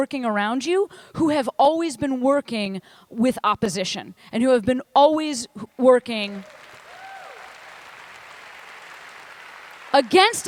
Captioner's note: applause